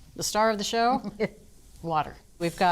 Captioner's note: laughing